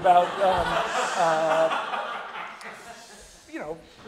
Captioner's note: audience laughing